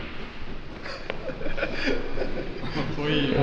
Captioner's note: laughs